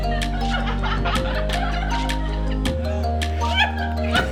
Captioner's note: everybody laughing